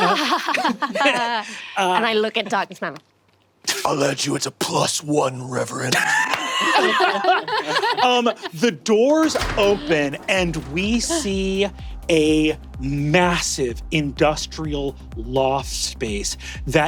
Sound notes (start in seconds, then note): 0.0 laughs politely; 5.9 cast laughing